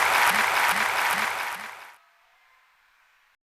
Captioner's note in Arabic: تصفيق